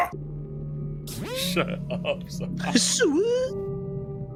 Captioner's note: specters squeaking; yells; imitates specter noise